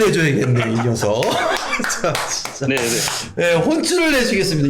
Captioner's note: applause